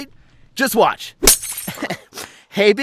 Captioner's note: smashes through glass